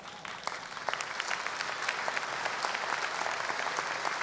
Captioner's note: audience applause